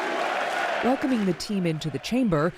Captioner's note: cheering